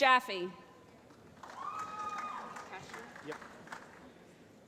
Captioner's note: applause